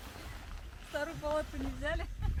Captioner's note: laughter